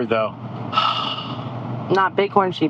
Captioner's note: heavy sigh